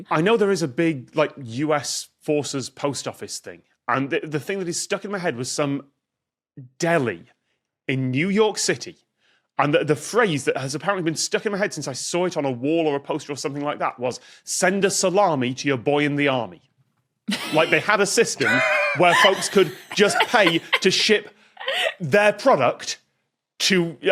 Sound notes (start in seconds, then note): 18.4 guests wheeze in turn